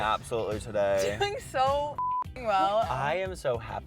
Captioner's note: beep